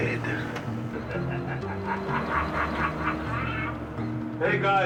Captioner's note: laughing